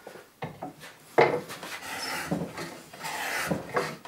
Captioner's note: grinding noise